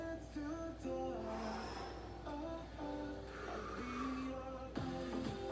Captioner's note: upbeat music; breaths; upbeat music